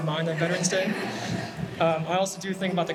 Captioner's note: everybody laughing